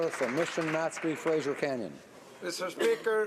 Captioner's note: applause